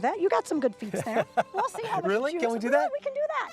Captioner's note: laughter